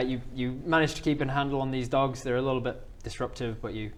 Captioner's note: none